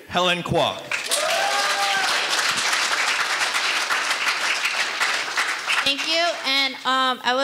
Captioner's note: audience cheering and applauding